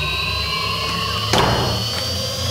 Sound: slam

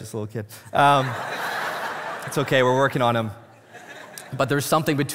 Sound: congregation laughing

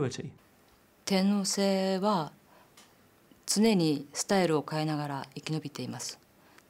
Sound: woman speaking in foreign language

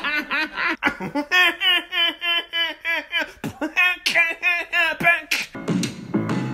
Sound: beatboxing and laughing

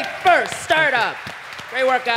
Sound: applause

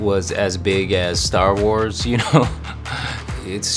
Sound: chuckles

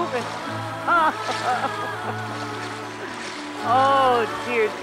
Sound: laughing

